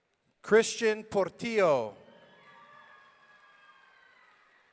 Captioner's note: audience cheering